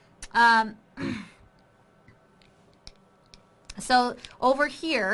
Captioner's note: clears throat